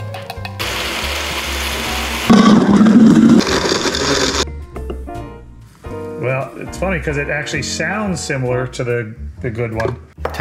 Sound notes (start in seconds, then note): 0.6 various blenders whirring